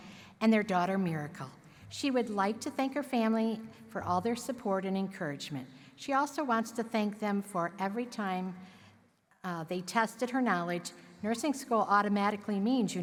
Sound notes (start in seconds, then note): none